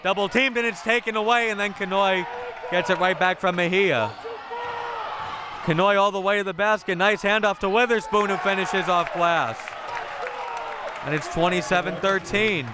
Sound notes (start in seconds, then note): 10.1 audience applauding and cheering